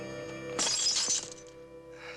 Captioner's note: glass shattering